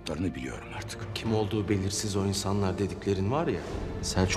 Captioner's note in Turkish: Gündoğdu dış ses